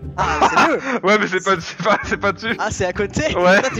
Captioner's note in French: rires